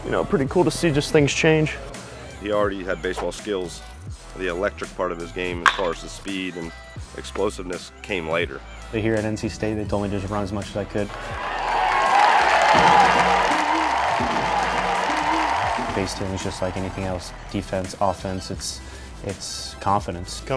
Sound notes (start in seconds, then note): 11.1 audience applauds